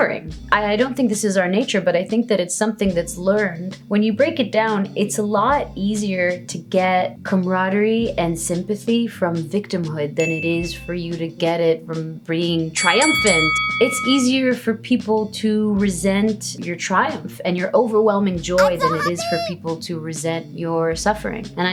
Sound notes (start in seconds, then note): 9.8 dinging; 13.1 bell ring